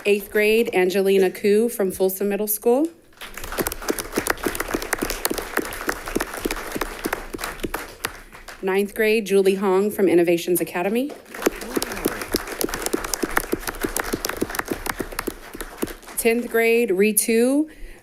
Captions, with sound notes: Eighth grade, Angelina Cui from Folsom Middle School, (all clapping) Ninth grade, Julie Hong from Innovations Academy. (all clapping) 10th grade, Ritu Thirunahari,